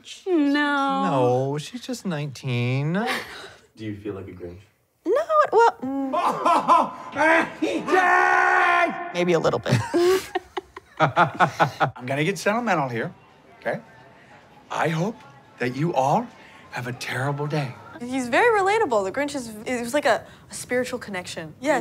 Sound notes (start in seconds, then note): 5.6 Grinch laughs; 9.6 laughs